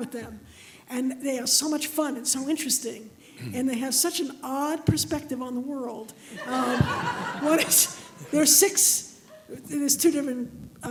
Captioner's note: laughter